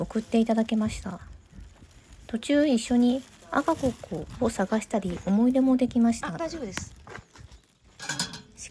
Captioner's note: birds